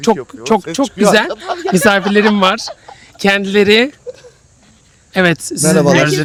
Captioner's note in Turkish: kahkaha